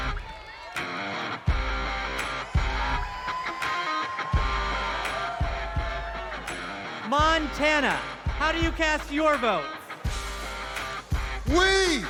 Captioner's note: cheers and applause